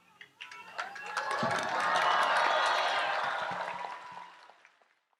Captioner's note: crowd applauds and cheers